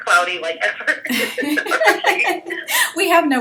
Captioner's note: laughs